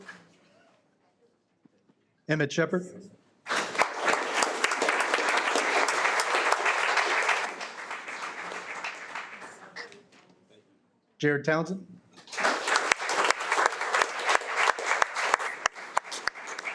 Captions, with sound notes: Emmett Shephard. (audience applauding) Jared Townsend. (audience applauding)